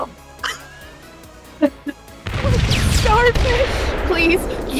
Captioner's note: explosions